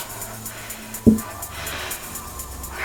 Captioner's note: tapping